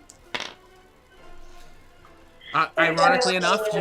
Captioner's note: dice rolling